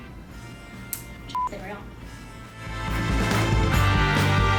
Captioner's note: beep